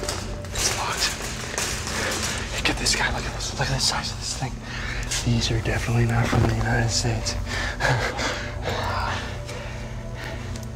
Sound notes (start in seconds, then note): 7.3 chuckles